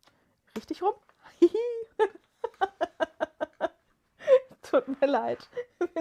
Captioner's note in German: gelächter